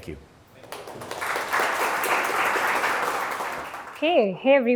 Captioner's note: attendees clapping